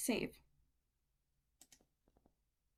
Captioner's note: click